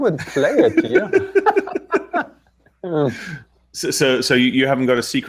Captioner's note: laughter